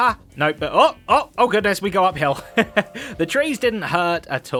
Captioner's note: laughs